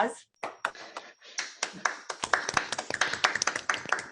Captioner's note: applause